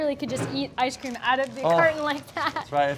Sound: laughs

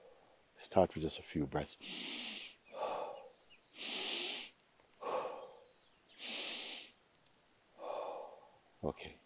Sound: inhales and exhales

